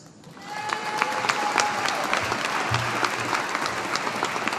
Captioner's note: audience applauding